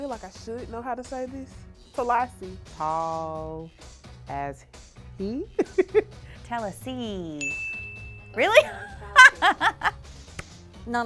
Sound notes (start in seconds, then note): 5.5 laughs; 7.4 bell chimes; 8.5 laughs